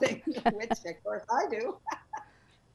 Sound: laughs

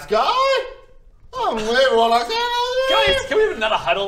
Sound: upset whineeeeeeeeee

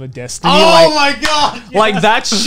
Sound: screams

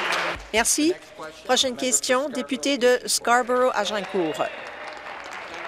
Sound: applause

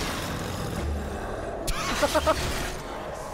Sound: laughs

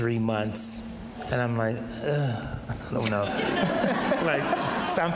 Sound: audience laughs

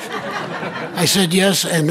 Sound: audience laughing

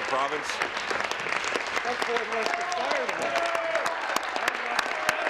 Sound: applause

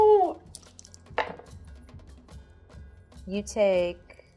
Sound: dice thudding

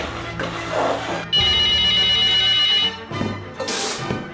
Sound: phone ringing

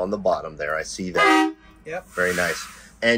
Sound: horn beeps

